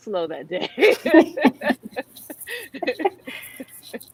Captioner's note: laughs